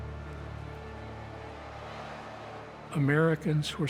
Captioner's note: crowd cheering